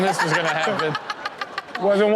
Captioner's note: Chanel laughs